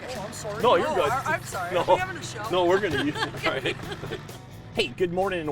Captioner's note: laughing